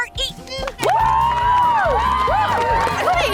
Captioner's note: cheering